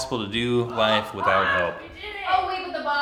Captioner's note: cheers